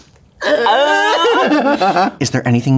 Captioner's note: both wail and laugh